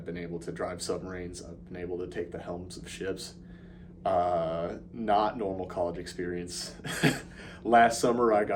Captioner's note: laugh